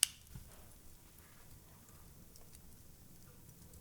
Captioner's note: gun clicks